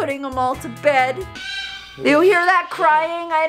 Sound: bird squawks

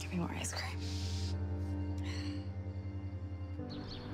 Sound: sighs

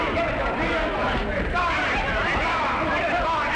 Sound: punching; yelling

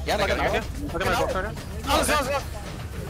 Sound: excited chatter

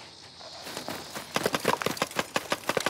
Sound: paintballs firing

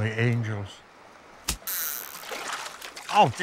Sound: fishing reel whirring

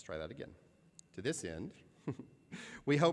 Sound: laughter

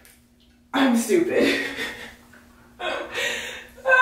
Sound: laughing

